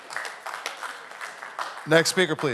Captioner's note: audience Applauding